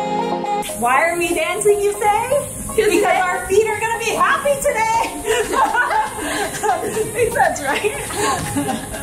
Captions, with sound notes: - Why are we dancing, you say? Because our feet are gonna be happy today! (laughs) Makes sense, right?